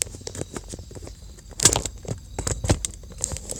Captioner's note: symphony of Crickets